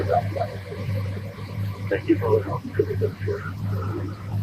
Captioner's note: radio